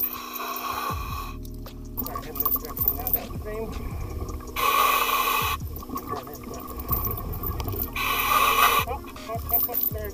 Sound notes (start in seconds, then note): 0.1 breathing; 4.7 breathing; 8.2 breathing